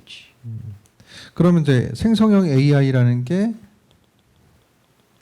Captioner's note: speaking korean